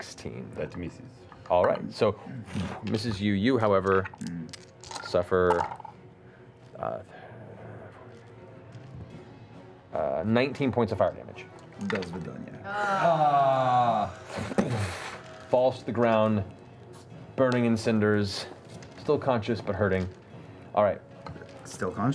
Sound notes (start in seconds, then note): 12.6 groaning; 14.6 impact